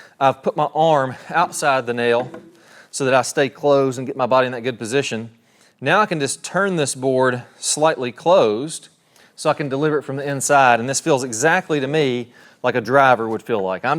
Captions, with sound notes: I've put my arm outside the nail (hammer tapping) so that I stay closed and get my body in that good position. Now, I can just turn this board slightly closed so I can deliver it from the inside, and this feels exactly to me like a driver would feel like.